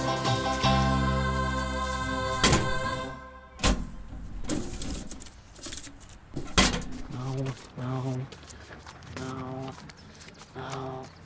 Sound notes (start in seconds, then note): 3.5 mailbox thudding; 3.6 letters rustling